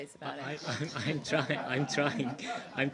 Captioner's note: laughter